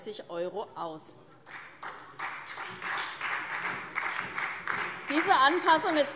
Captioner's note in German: Beifall SPD